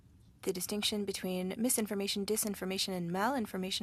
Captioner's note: speaking French